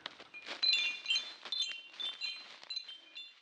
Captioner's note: chiming